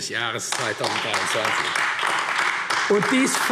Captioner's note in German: Beifall AfD